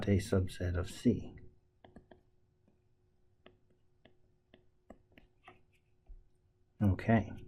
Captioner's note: tapping Sounds